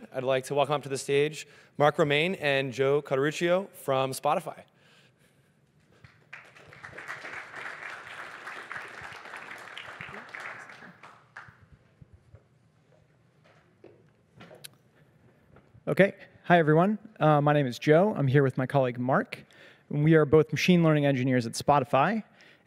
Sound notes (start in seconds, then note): 6.0 applause